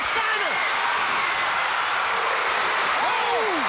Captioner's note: crowd cheering